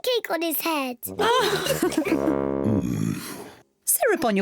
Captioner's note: kids and mummy pig laugh